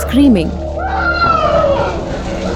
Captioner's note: crying